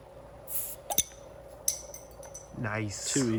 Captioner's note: bottle cap pops